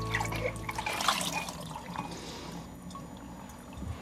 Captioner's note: water splashing